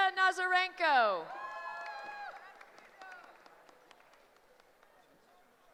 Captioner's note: cheering